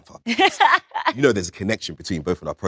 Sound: Letitia laughs

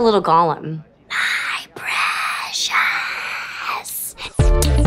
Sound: speaking in gollum voice

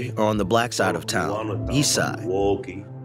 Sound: through translator

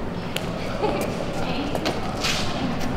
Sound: emma giggles

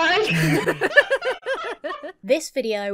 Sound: both laughing

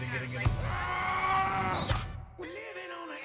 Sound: man shouting

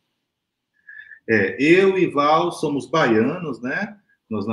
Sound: speaks portuguese

